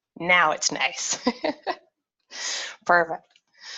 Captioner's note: laughs